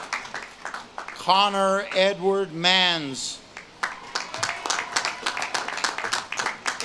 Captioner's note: audience claps and cheers